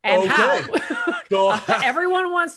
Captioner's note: laughs